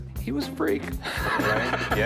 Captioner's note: laughs